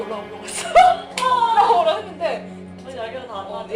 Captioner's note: crying